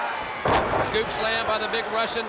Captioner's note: crowd chatter